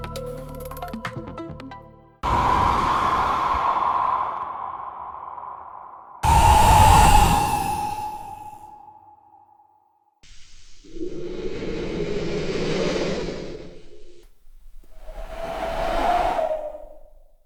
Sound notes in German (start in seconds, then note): 2.2 Windgeräusch; 7.4 Böengeräusch; 12.7 Brisegeräusch